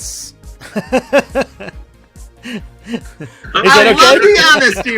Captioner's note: laughs